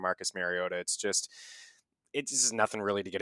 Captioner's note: inhales